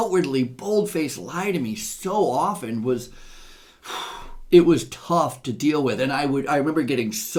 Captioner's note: sighs